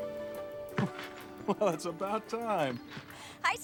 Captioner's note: chuckling